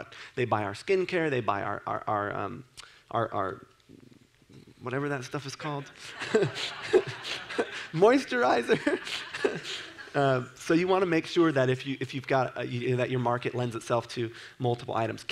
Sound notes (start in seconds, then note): 5.9 laughs